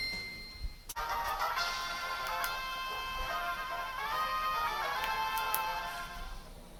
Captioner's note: game sounds and music